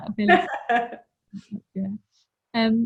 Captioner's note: laughs